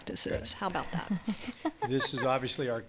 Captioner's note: laughs